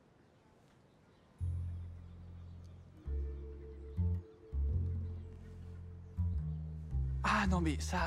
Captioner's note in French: cloches et cris de mouettes au loin